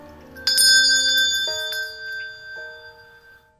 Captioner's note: rings bell